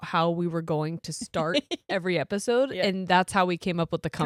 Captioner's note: giggles